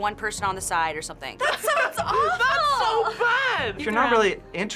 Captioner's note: laughs